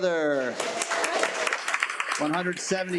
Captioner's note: attendees applaud